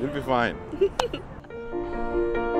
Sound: laugh

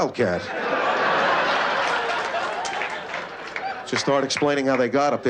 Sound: laughter

